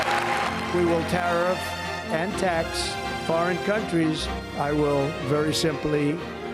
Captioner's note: applause